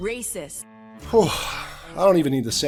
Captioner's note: sighs